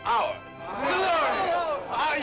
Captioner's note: general acclamation